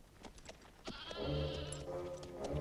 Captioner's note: goats bleating; austere music